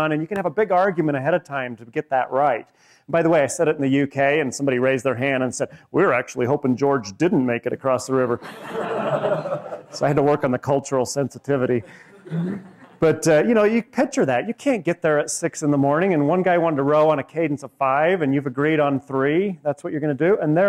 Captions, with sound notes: And you can have a big argument ahead of time to get that right. And by the way, I said it in the UK, and somebody raised their hand and said, we were actually hoping George didn't make it across the river. [LAUGHING] So I had to work on the cultural sensitivity. But you picture that. You can't get there at 6:00 in the morning, and one guy wanted to row in a cadence of five and you've agreed on three. That's what you're going to do?